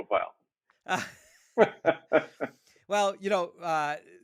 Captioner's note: laughing